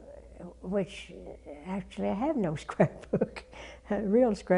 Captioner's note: laugh